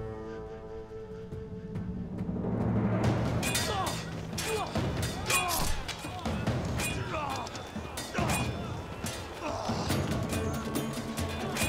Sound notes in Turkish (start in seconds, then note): 3.2 Dövüş sesleri